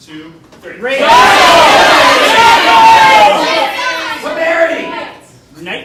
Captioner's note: audience yelling